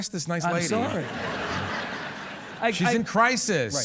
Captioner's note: audience laughing